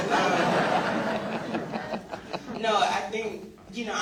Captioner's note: audience laughs